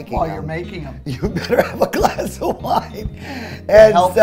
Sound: laughing

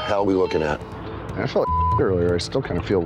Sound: beep

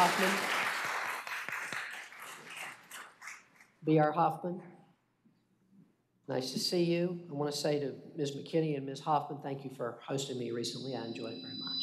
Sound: applause

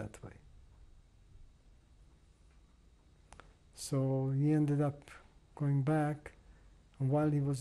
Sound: pauses for 3 seconds

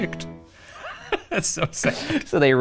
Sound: laughs

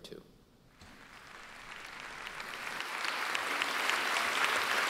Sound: audience applauding

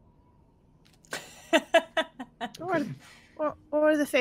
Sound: laughs

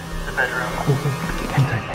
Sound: eerie sounds

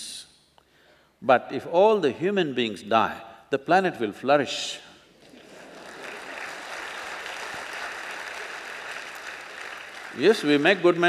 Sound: applause

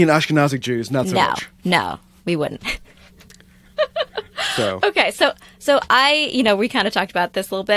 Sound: laughter

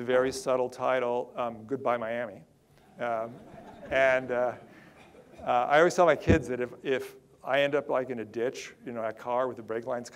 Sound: audience laughter

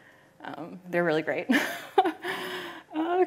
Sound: laughs

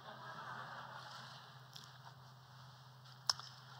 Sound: laughter

